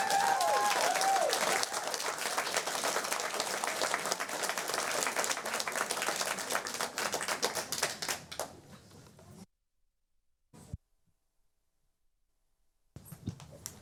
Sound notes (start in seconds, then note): 8.7 applause